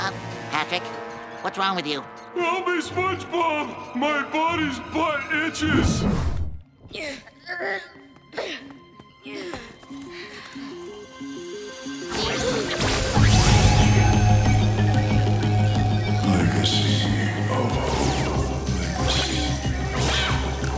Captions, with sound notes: Patrick? What's wrong with you? Help me, SpongeBob. My body's butt itches! [grunting] [echoing] Legacy of hope.